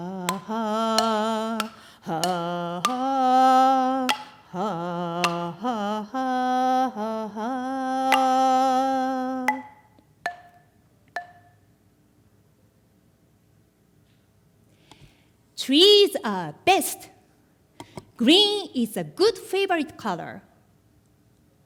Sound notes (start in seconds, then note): 9.5 wooden chimes